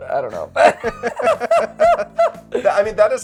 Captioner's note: both laughing